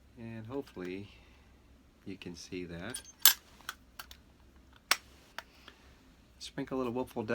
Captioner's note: metal snapping